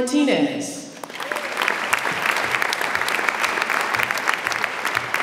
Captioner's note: audience applauds